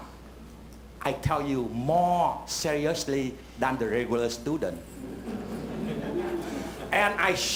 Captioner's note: laughter